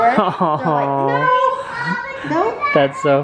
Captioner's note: chuckles